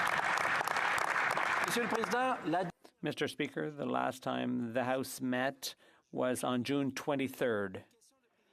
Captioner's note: applause